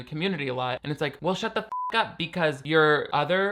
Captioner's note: beep